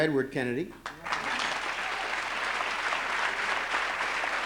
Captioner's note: applause